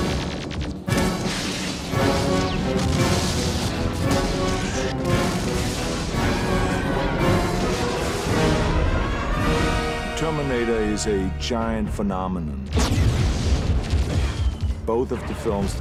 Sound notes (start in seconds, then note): 0.3 gun zapping; 0.3 upbeat music; 2.2 glass shattering; 3.7 explosion booming; 8.3 upbeat music; 12.7 explosion booming; 13.2 guns zapping